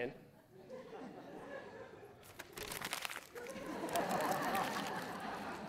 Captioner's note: audience laughing